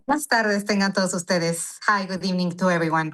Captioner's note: speaking Spanish